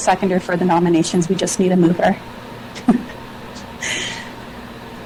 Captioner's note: chuckles